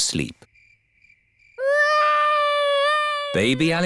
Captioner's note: baby alexander crying